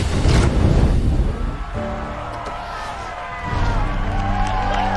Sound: crowd cheering

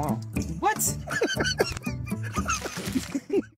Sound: dad laughing

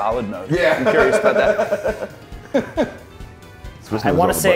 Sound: laugh

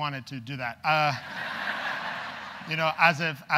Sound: audience laughs

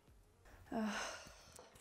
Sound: loud sigh

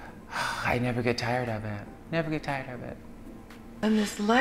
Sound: sighs

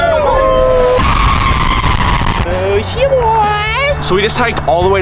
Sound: screams; all cheer

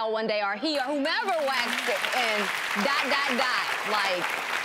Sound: audience applause

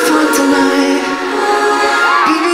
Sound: crowd cheers

